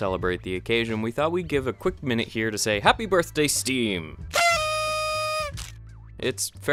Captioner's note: party blower sound